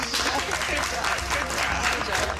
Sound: clapping

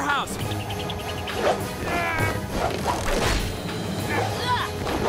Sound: grunting

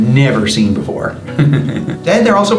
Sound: laughs

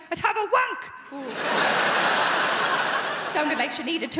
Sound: crowd laughing

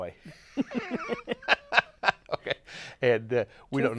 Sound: laughs

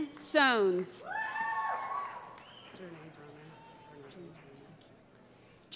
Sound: cheering

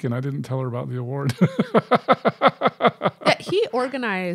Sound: chuckling

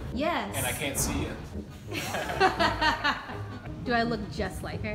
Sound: laughs

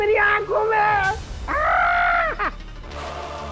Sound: shrieks

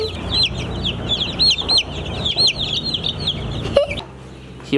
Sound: chicken chirping

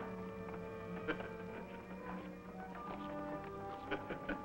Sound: man laughing

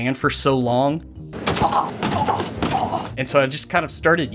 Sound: repeated slamming, groaning

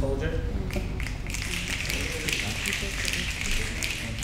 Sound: snapping

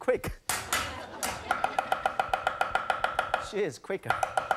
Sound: audience laughs; clanking

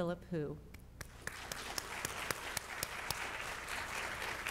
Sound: audience applauds

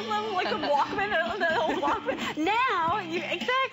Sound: laughter

